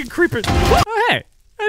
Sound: screaming

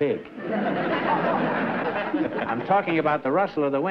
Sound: laughter

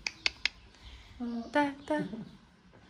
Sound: Arabic

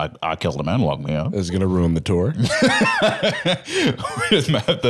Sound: laughs

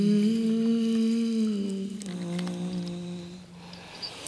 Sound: none

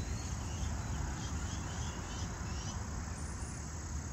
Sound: birds chattering

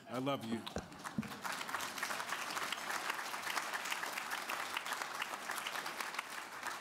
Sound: applause

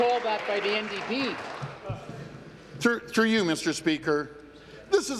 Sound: applause

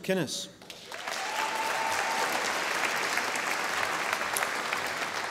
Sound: audience applauding

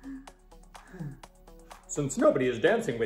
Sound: Harriet sighs a bunch

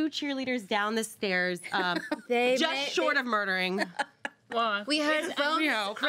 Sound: girl laughs

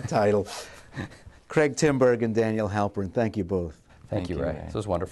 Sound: laughter

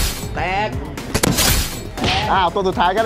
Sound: gunshot firing

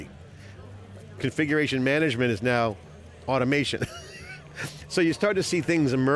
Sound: chuckles

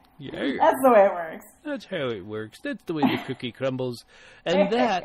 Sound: laughs

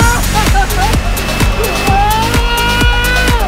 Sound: laughing

